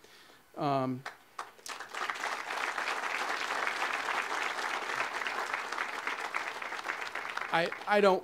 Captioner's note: audience applause